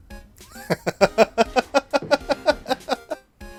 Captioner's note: laughter